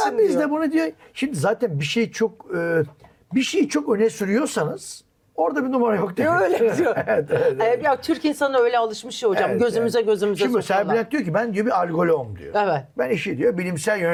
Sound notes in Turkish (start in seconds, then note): 6.4 kahkaha